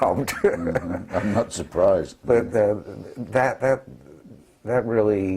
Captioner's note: laugh